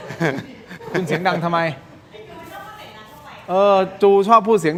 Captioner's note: laughs